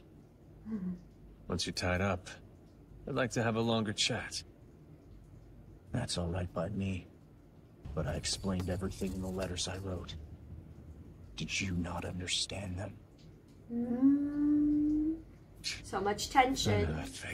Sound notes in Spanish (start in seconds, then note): 13.7 Gato "Uhhhh"